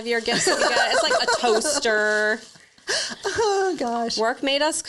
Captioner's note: laughs